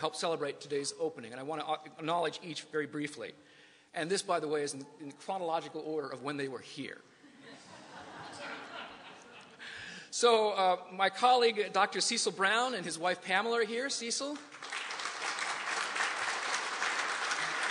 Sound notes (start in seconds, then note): 7.2 laughter; 17.5 applause